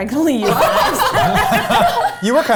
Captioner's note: all laugh